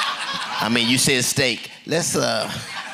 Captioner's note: laughter